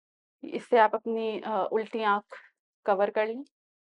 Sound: in Urdu

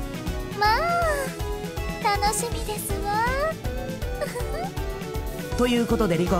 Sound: giggle

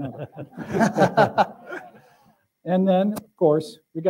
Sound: laughter

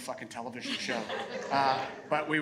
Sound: audience laughing

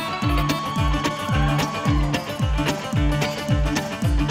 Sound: crowd cheering

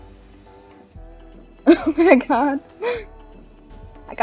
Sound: laughs

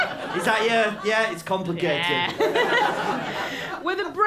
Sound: laughter

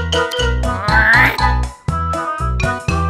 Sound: groan

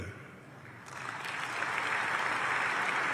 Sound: applause

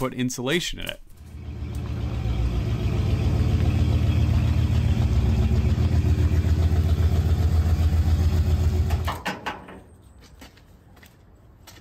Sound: truck backing up - exhaust noice

